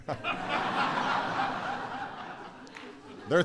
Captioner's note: laughter